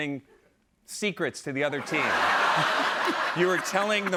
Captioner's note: laughter